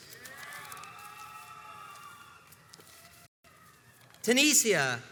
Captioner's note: crowds cheers and applauds